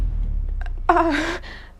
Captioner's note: stutters